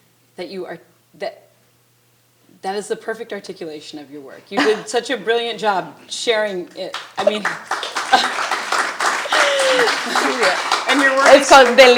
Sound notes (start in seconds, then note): 7.2 chuckles; 8.4 attendees applauding